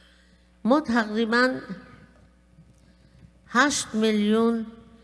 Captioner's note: speaking persian